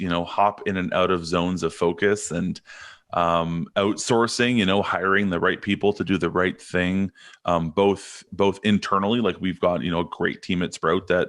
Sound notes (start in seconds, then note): none